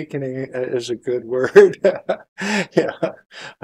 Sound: laughter

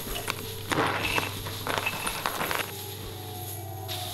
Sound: slow Heartbeat Sound

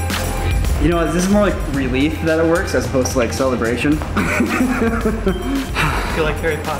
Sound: laughs

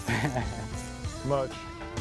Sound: laughter

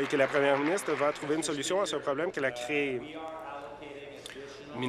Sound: applause

